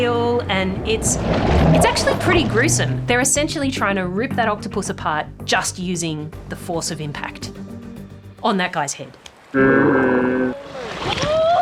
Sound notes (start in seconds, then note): 9.6 slow motion roaring